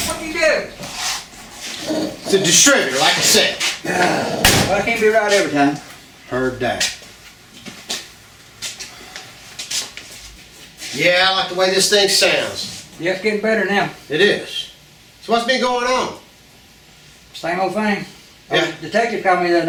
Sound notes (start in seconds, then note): 3.8 Scooter groans